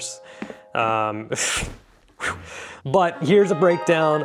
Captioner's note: audible exasperation